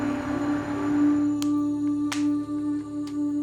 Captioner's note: clacks